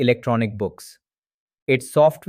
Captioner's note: pause